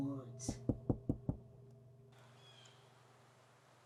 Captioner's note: knocking on door